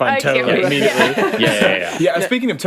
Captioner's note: all laughing